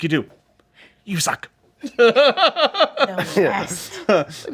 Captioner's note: belly laughs